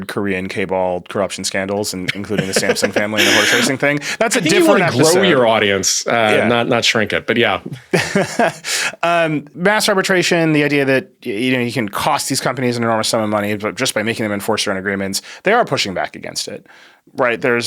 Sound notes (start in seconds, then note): 2.0 laughs; 7.8 laughs